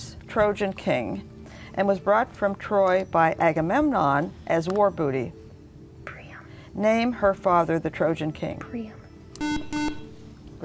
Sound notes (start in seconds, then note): 7.8 buzzer